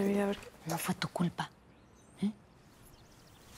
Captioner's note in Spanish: en voz baja